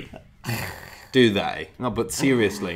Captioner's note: chuckles